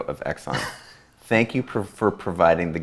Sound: A.J. laughs

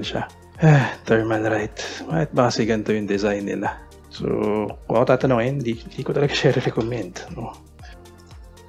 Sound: sighs

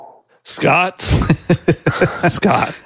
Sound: laughs

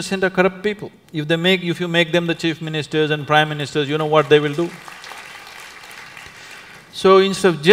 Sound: applause

